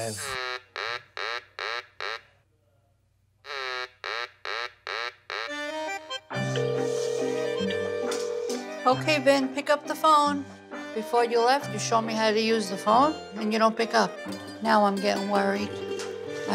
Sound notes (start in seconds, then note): 0.3 duck quacking; 5.6 classic Italian music; 6.4 phone ringing